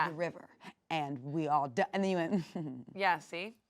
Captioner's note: chuckles